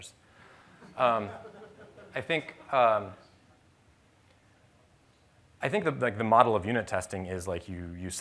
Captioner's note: laughter